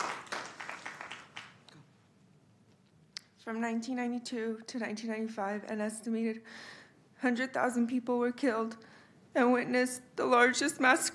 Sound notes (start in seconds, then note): 0.0 applause